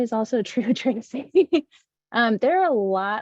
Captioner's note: chuckles